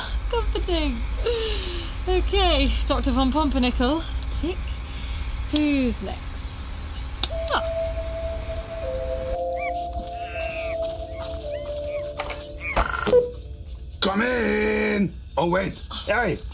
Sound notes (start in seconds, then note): 9.0 gentle music; 10.1 monkeys gibbering